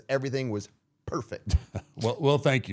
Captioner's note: laughing